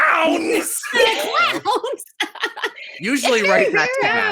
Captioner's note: laughter